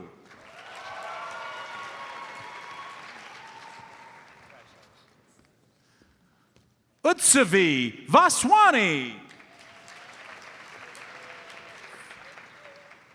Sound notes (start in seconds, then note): 0.2 audience cheers and applauds; 9.9 audience applauds